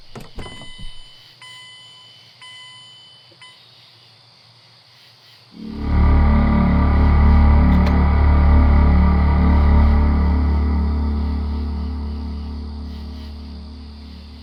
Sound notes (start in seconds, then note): 0.1 warning signal beeping; 2.4 beeping stops